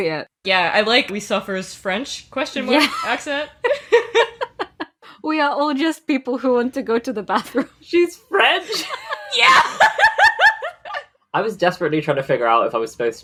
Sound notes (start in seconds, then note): 3.7 laughing; 5.3 bad French accent; 8.6 laughing; 8.6 laughs